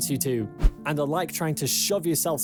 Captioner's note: screen swishes